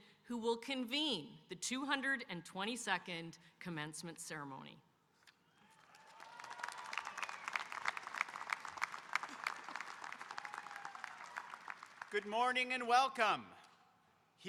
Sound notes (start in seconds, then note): 5.6 audience cheering and applauding